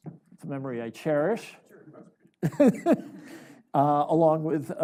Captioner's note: chuckles